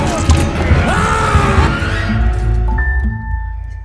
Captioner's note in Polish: okrzyk bojowy